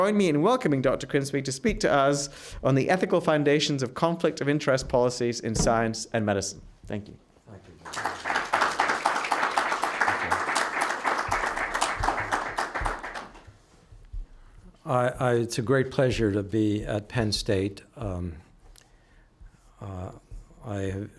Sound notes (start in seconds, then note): 7.8 applause